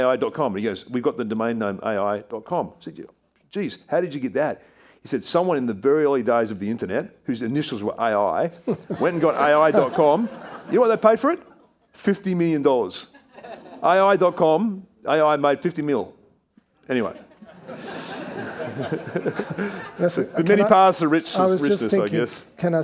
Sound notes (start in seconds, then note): 17.0 all laughing